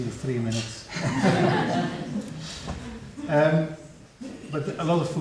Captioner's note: audience laughing